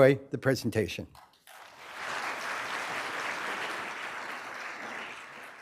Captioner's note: applause